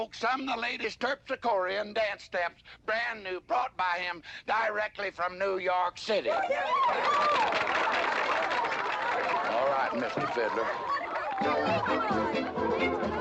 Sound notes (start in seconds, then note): 6.7 audience applauding excitedly; 10.2 lively dance music